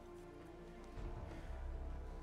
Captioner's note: none